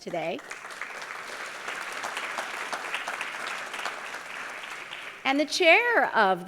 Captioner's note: applause